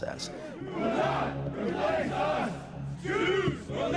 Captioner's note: crowd